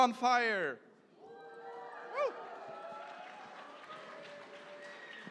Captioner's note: cheering